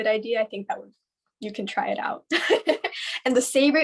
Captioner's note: laughs